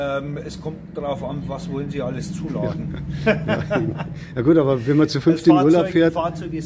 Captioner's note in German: lachen